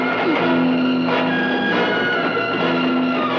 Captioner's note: Vic groans